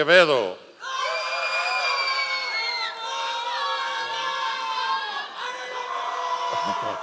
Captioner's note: members of the audience cheering